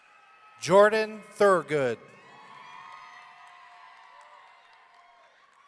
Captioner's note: audience cheering